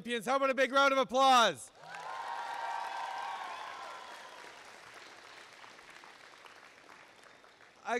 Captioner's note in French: Applaudissements et acclamations